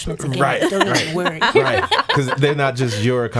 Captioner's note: laughing